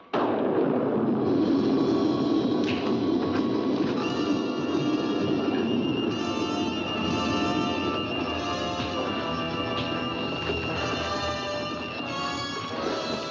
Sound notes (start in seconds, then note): 0.0 loud thunder; 3.9 suspenseful music; 8.8 sound of punches; 10.9 sounds of scuffling; 10.9 suspenseful music